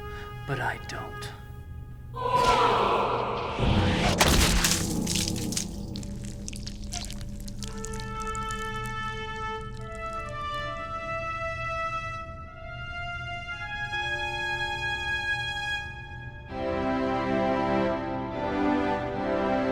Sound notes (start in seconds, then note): 2.1 ominous music; 4.1 blood squelching; 16.4 solemn organ music